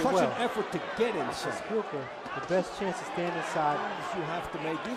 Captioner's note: cheer